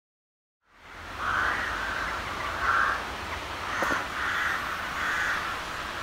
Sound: crows cawing

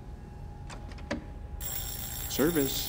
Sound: bell rings

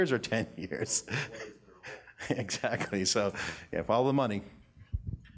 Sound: laughs

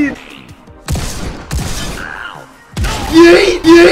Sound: shotgun blasts

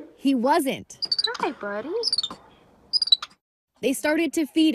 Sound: monkey squeaks

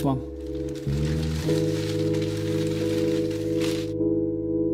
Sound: newspaper crackling

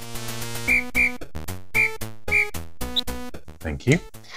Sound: whistle tweeting

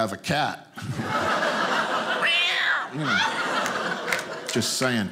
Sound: audience laughing

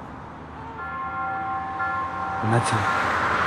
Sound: church bell rings

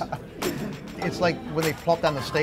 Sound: laughs

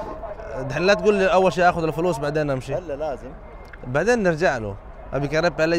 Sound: Arabic

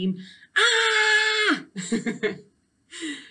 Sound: aaahhh!

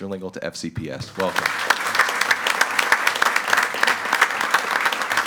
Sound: group applauding

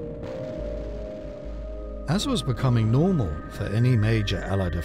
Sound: explosion booms

